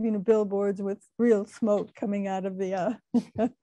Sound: laughing

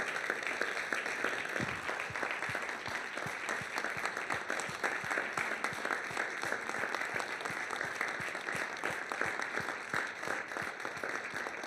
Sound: applause

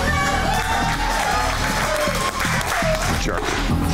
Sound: bar patrons cheering and clapping

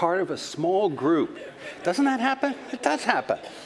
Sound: laughter

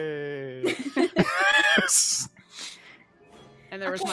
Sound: players laughing

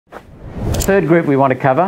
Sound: low swoosh

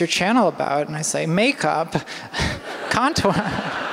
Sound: laughter

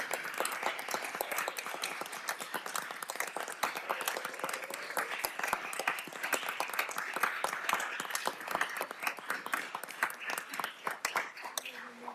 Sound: applause

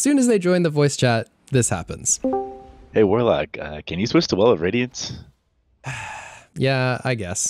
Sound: sigh

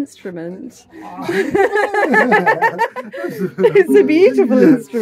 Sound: laughter

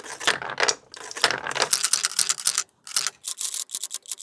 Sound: marbles rolling

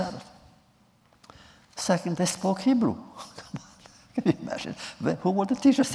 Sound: laughs

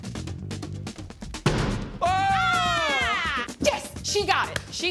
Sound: cheering

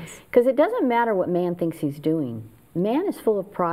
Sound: none

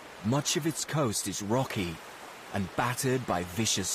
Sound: waves crashing

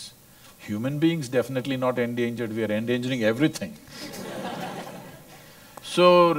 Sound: laughter

